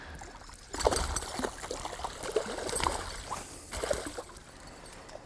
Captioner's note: lot of splashing